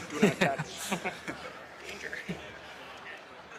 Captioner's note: all laugh